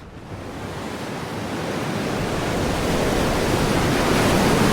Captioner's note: waves crashing